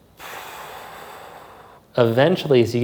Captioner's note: exhales softly